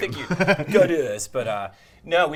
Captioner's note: laughter